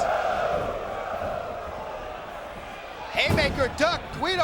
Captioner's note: audience shouting